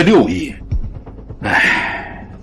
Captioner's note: sighs